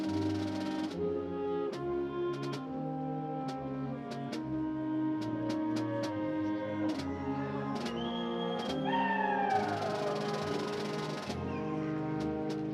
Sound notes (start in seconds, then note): 9.5 audience applauding